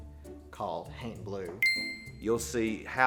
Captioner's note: ding